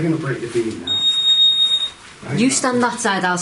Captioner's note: high-pitched beep